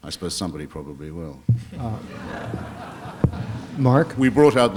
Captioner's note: laughter